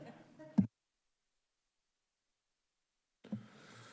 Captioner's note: group chuckling